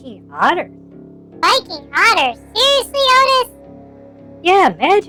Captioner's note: laughs